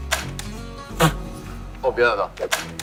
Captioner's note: laughing!